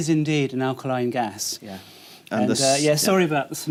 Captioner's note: sniffing